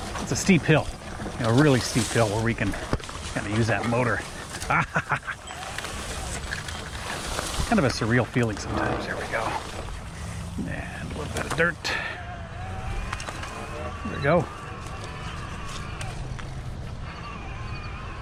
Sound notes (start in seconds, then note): 4.2 laughs